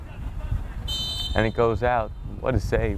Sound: whistle blows

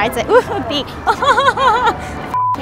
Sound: laughing

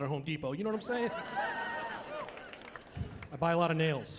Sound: cheering; laughing

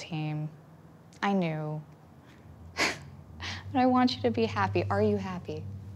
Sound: laughs

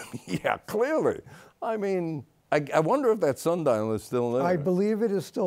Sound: laughs

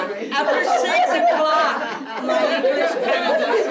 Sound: laughter

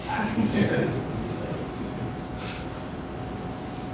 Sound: laughter

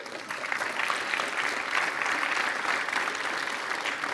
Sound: applause

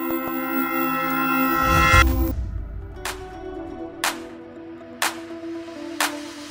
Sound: sound of CB Aviation into logo

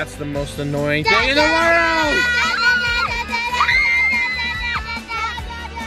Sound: girls screaming and chanting

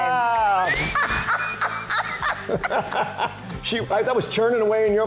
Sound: laughter

